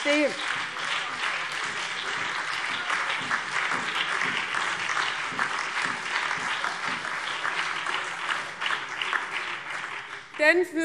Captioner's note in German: Beifall BÜNDNIS 90/DIE GRÜNEN